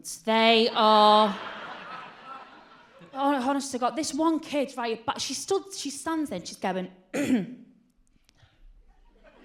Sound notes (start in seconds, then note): 7.1 clears throat